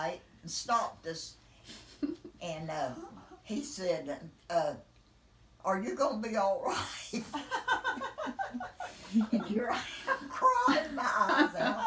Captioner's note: laughing